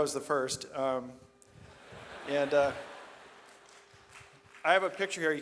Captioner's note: audience laughs